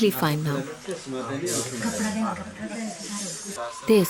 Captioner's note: indistinct conversation